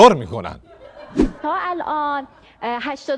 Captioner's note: laughter